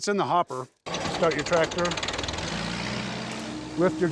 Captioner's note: engine starting